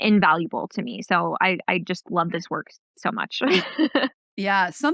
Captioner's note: laughs